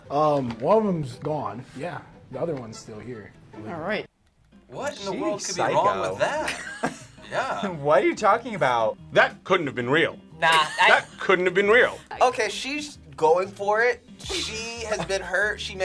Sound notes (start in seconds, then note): 6.2 React laughs